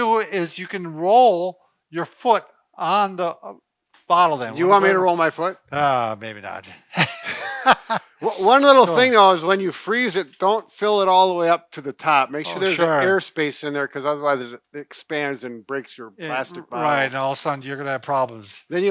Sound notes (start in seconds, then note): 6.8 laughing